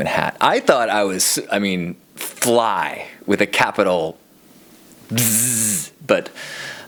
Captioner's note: buzzes